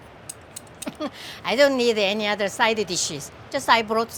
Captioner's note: laughs